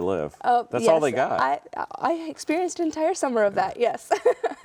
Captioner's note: laughing